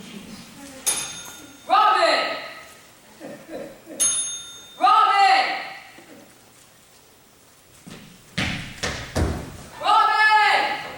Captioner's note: rings bell